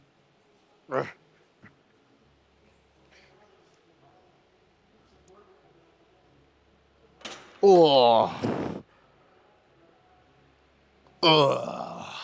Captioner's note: grunting